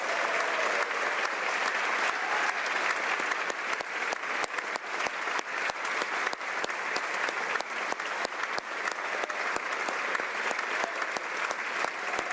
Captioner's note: applause